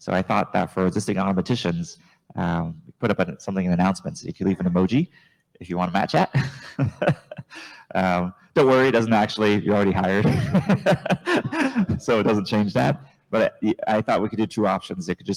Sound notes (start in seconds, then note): 7.3 laughs; 10.2 chuckles